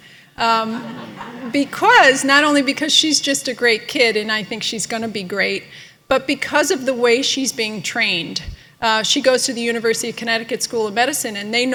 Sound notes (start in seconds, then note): 0.6 laughter